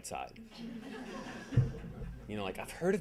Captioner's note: audience laughing